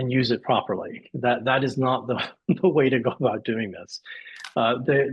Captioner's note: laughs